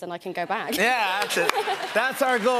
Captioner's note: laughter